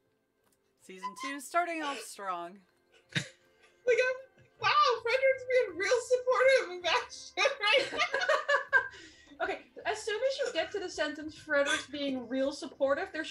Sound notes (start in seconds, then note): 7.7 laughter